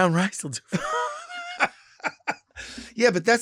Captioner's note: Lady Bunny laughs